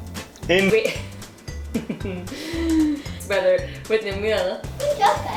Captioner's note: laughter